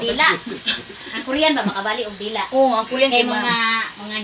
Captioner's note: haha